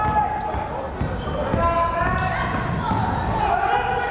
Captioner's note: yelling